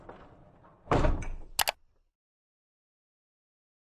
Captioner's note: bump and click